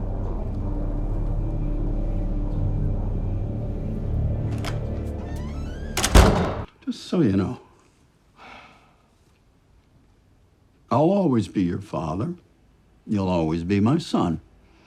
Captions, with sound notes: (door creaks) (door slams) - Just so you know, I'll always be your father and you'll always be my son.